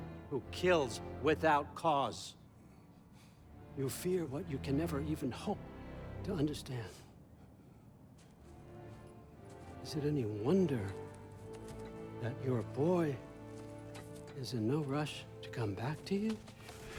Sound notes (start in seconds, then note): none